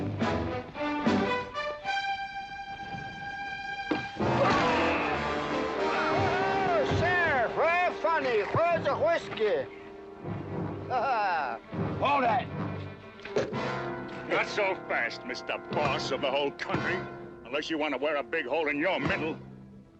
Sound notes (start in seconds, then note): 3.9 whack; 4.3 tense music; 13.3 thump